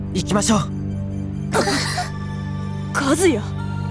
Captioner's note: gasp